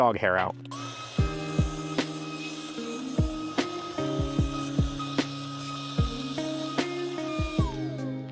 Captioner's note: vacuum noises